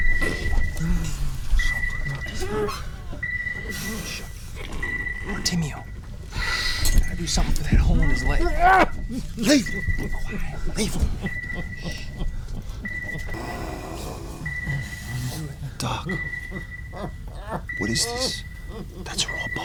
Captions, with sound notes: Bartimeo, you gotta do something for that hole in his leg. [yells] Leave him! Leave him. Doc, what is this? That's raw bone. Black skin.